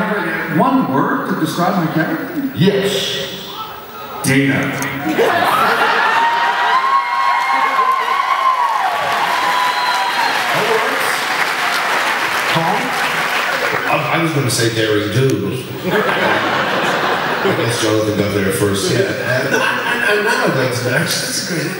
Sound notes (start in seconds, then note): 5.0 laughs